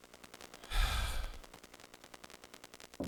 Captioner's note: sigh